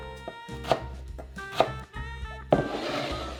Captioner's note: knife chopping